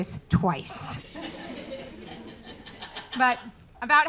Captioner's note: audience laughing